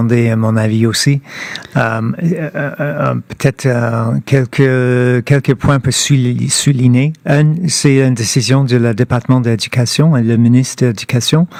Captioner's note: speaking French